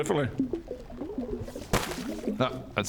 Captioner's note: boop